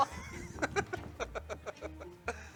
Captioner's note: laughs